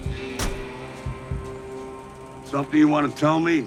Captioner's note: truck door slamming